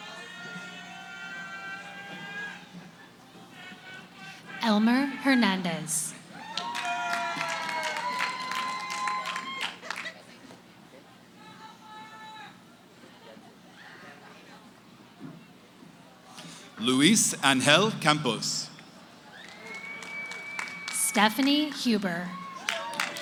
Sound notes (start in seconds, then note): 0.0 cheering; 6.2 cheering; 13.1 background conversations